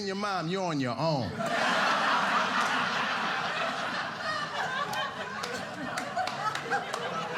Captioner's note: audience laughing